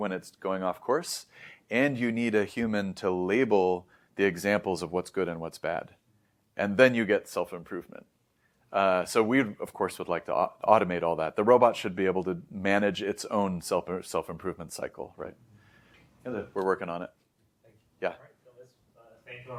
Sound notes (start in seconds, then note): 1.3 inhales; 5.9 background static continues